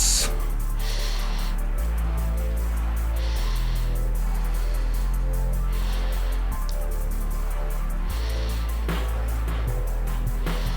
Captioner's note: breathing